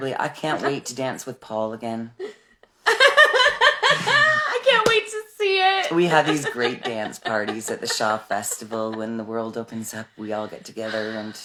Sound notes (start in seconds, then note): 2.9 laughing